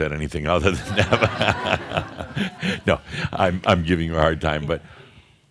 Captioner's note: laughter